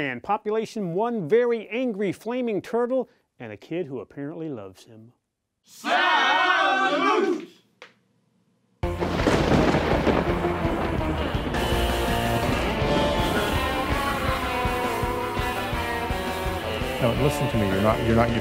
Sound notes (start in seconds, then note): 8.8 lightning cracks; 10.2 upbeat rock music